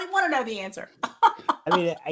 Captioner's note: laughs